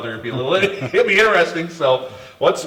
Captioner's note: laughs